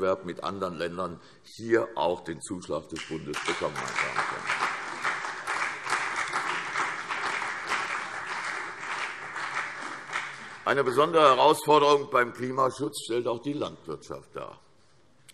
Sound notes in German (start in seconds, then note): 3.2 Beifall CDU und BÜNDNIS 90/DIE GRÜNEN